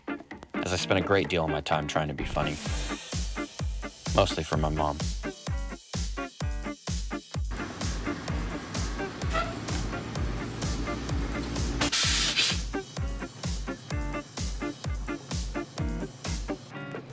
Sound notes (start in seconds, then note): 5.5 whimsical music continues; 8.9 brakes squeak; 11.3 doors hiss; 13.1 whimsical music continues